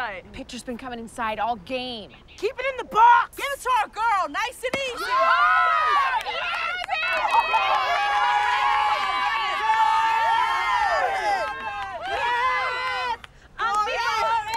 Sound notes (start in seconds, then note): 9.4 team cheers